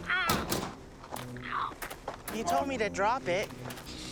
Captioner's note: Seymore yelling; box clanking